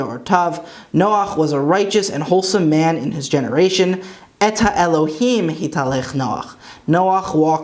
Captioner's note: Hebrew; Hebrew